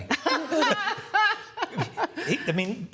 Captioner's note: laughter